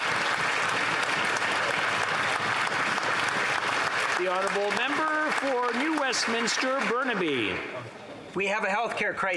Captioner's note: applause